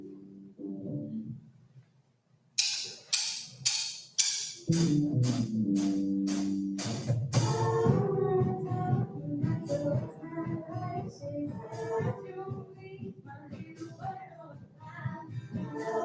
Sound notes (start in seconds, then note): 2.6 sticks tapping